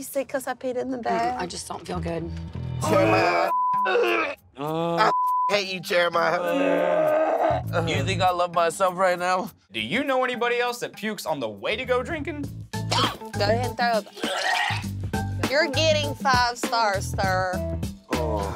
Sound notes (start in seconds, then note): 2.9 beep; 3.8 retching; 5.1 beep; 12.9 coughs; 14.2 retches